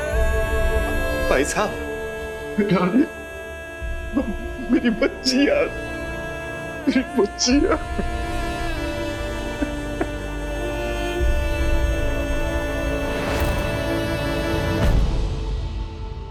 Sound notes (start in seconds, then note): 9.2 Maan sobbing; 11.0 emotional vocalising